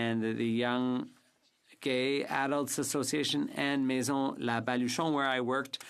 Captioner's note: speaking French